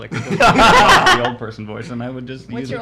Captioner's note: laughs